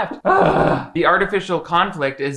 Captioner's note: groaning